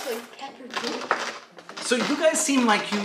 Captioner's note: crepitating